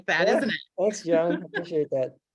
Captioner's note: laughter